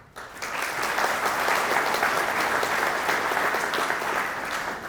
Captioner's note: audience applauding